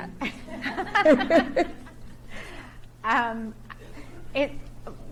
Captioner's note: laugh